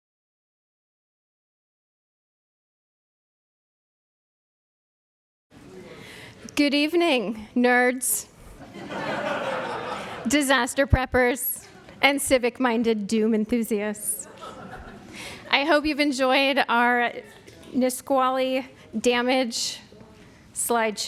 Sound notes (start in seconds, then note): 8.5 laughter